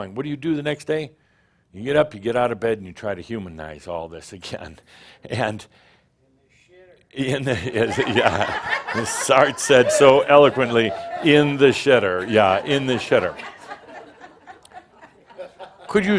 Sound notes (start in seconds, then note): 7.3 chuckling; 7.7 laughter